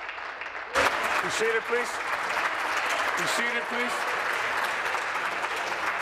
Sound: applause

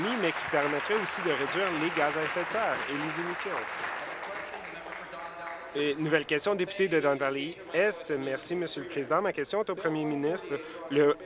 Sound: applause

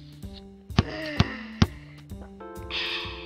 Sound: ball bouncing

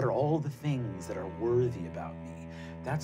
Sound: none

